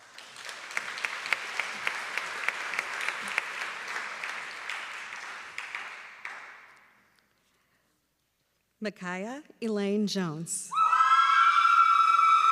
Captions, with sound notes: [applause] Mikiah Elaine Jones.